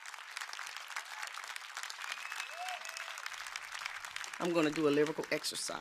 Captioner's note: crowd applauds